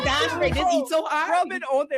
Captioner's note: laughing